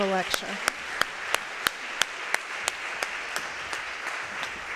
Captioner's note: audience applauding